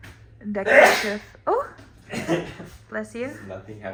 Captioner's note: sneezes loudly